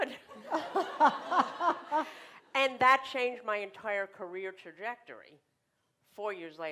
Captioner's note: laughter